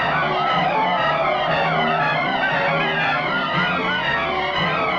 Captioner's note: men shouting